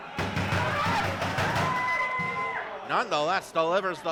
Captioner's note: banging